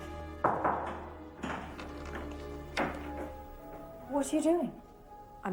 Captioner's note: knocking on door